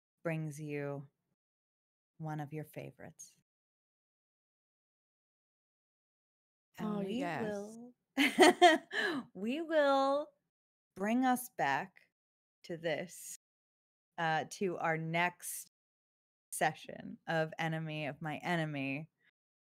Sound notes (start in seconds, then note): 9.0 laughs